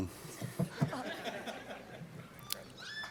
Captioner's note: laughter